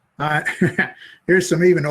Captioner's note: laughs